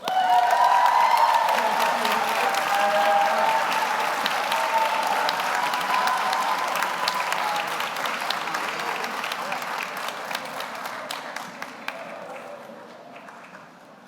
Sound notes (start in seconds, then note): 0.0 audience cheers; 1.3 audience applauds